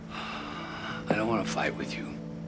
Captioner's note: sighs